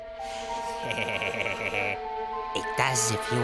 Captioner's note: laughs Evilly